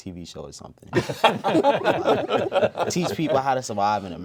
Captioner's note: all laugh